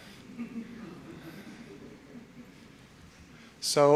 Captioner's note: audience chuckling